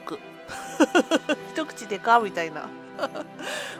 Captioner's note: laughs